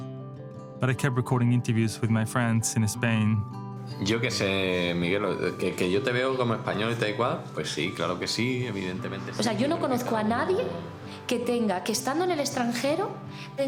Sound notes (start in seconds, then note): 7.9 speaking Spanish; 11.8 speaking Spanish